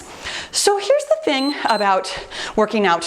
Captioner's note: timer beeps